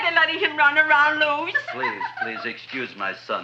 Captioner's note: laughs